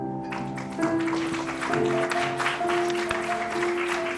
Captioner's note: applause